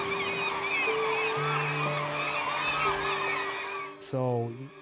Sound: birds squawking

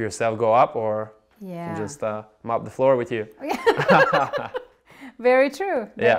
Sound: laughs

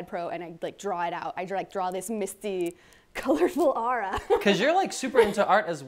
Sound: laughs

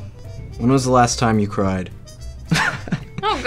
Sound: laughs

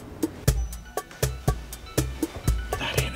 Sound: phone rings

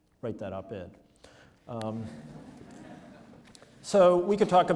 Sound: audience laughs

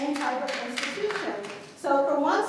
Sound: clapping

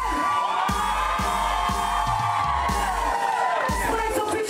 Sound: crowd cheering

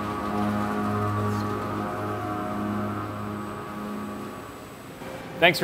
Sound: machining Noises

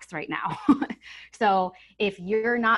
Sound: chuckles

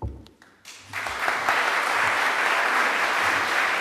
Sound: applause

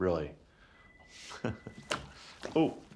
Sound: chuckles

